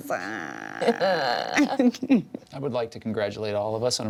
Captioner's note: laughs